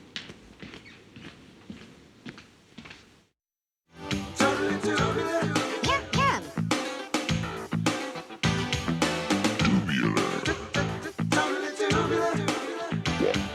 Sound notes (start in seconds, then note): 9.5 deep Voice